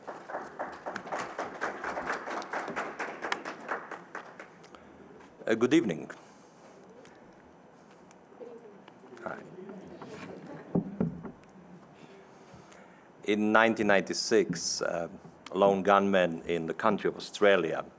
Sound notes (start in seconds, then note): 0.0 applause; 5.5 Croatian accent; 9.8 audience chuckling